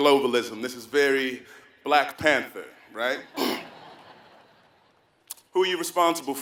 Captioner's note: laugh